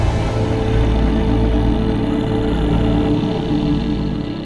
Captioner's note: man growling